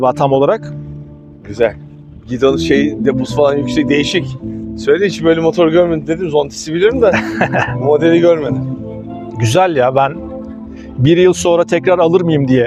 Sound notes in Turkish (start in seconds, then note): 7.0 kahkaha